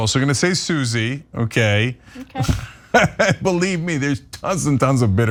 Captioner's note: laugh